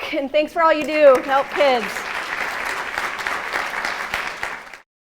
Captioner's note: applause